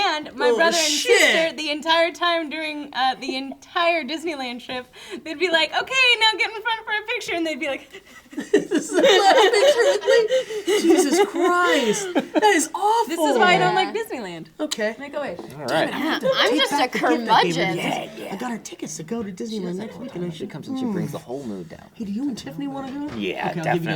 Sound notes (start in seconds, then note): 7.8 sobbing